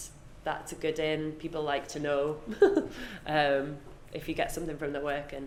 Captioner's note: laughs